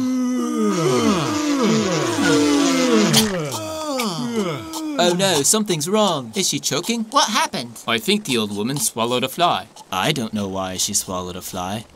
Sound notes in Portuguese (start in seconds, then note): 3.0 Choking